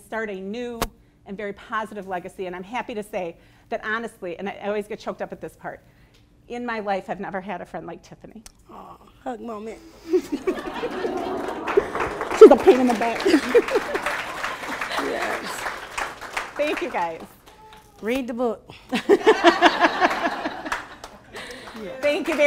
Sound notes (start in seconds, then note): 10.0 laughing; 12.1 applause; 18.8 laughing